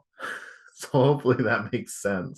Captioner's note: chuckles